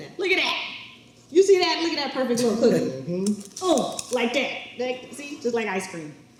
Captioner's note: none